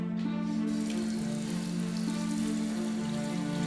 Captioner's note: sink turns on